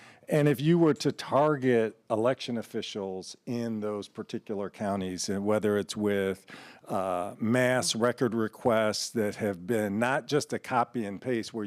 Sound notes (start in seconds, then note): none